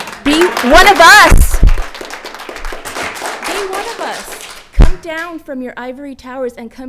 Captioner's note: audience clapping